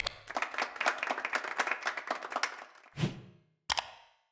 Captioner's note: applause